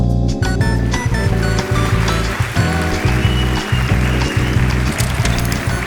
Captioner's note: applause